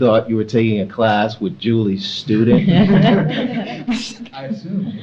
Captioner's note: audience laughs